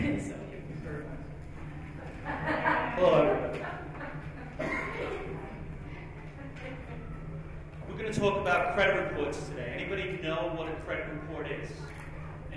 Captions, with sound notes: So here you go. - Thank you very much. (laughs) Hello everybody. We're going to talk about credit reports today. Anybody know what a credit report is?